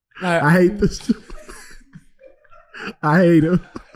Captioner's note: laughing